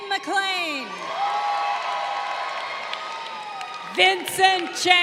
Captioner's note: crowd cheering